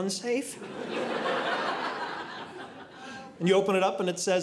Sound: audience laughing

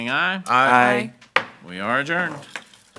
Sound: gavel bangs

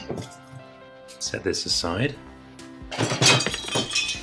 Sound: loud crashing and breaking sounds!

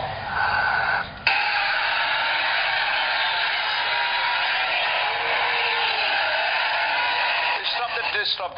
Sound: applause from laughing crowd

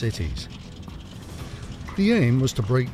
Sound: engine hums

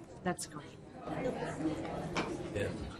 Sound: voiceover

